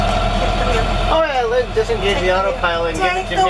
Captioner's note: complaining